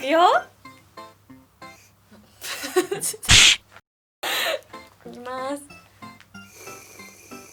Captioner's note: laughing